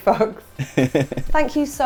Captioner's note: chuckles